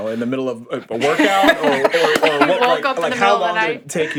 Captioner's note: laughing